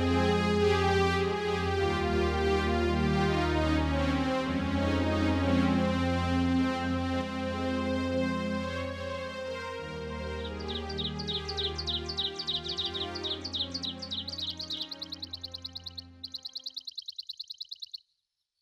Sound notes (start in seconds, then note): 7.9 bird chirping